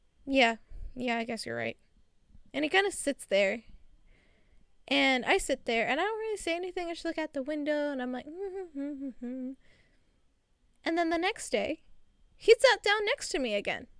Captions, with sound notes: "Yeah, yeah, I guess your right." And he kinda sits there and I sit there. And, I don't really say anything. I just look at the window, and I'm like *World's worst humming lol* And then the next day, He sat down next to me again.